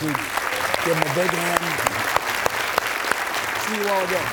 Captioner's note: audience applauds